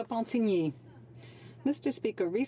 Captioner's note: speaking French